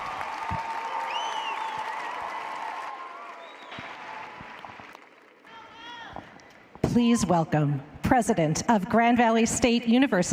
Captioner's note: cheers and applause